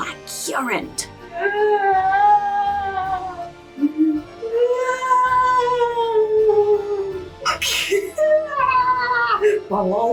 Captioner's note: spooky noises